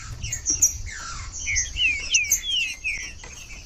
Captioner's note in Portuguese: trinca ferro cantando